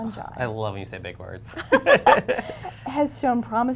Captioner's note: laughter